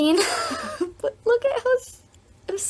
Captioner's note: laughs